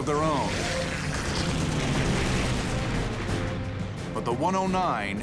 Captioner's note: gunfire